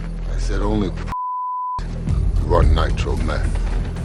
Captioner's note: beep